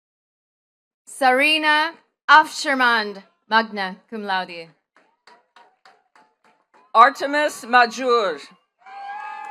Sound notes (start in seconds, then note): 5.0 attendees clapping